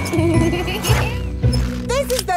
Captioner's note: laughing